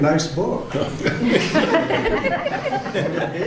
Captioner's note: laughter